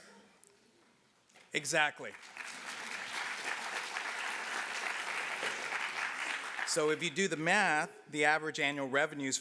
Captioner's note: applause